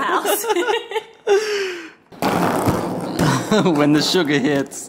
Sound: couple laughs

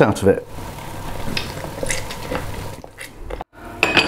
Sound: juicing sound

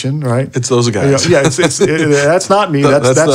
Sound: laughs

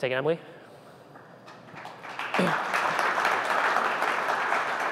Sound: applause

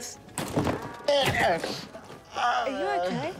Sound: thud!

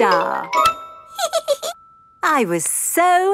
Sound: giggles

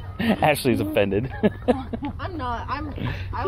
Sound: laughing

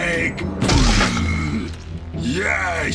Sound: head thudding

